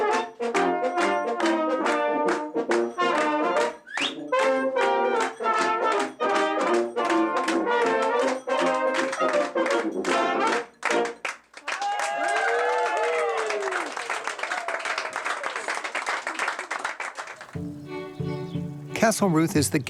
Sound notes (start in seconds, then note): 3.7 whistles; 11.5 cheers and applause